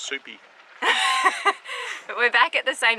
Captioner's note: laughing